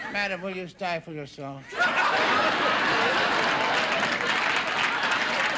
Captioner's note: audience laughing